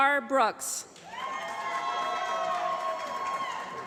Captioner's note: applause